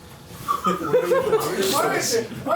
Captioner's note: laughs